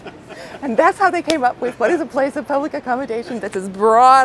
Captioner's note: laughter